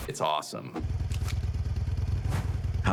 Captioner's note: engine idling